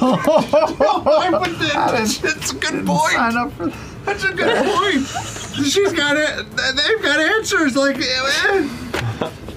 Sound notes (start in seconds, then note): 0.0 laughter; 4.2 laughs